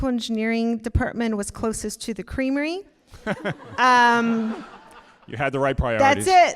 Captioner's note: all laughing